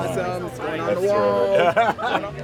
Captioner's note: laughing